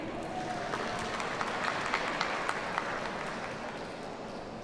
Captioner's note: audience applauds